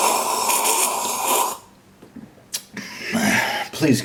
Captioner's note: slurping; deep gulp